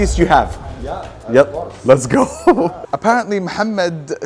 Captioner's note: laughs